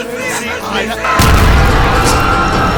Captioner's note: chaos, muffled by crowd; heavy explosion, terrified screams; sounds of panicked crowd, manic banjo